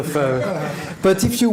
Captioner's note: audience laughing